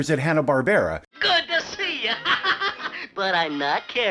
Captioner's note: laughs